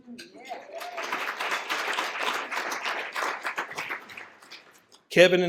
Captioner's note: applause